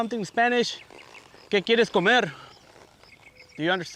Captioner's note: speaking spanish